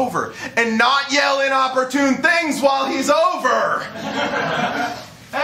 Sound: laughter

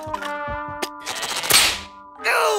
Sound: strains

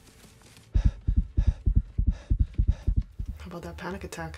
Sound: panicked heart beating

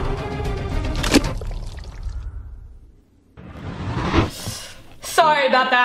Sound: lunch meat splatting

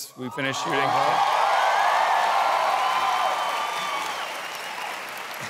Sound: cheering

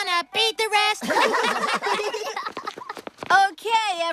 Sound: laughter

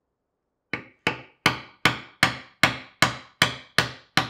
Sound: hammer taps

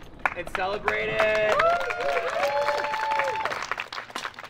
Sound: crowd applauding

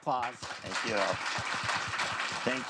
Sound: crowd applauding

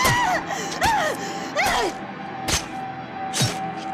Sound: screaming; hatchet chopping

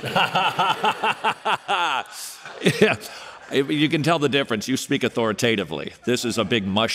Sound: laughing

